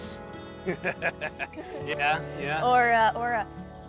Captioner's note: laughs